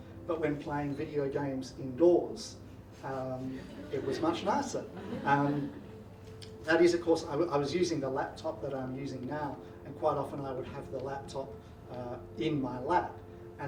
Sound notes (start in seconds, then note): 3.4 audience laughing